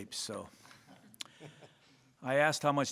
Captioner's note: laughter